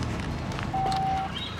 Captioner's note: beep